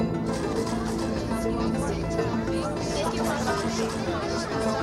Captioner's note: all chattering